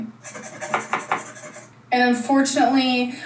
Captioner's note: scratches card